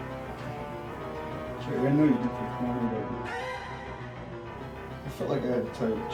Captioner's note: murmur